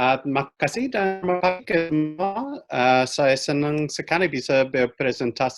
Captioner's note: speaking in foreign language